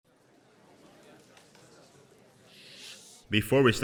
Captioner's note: crowd murmuring